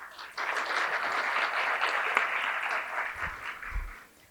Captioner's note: applause